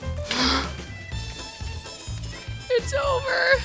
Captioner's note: gasp